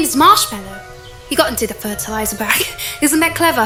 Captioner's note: giggles